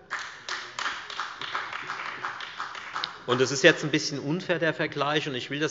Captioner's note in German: Beifall bei der FDP und bei Abgeordneten der CDU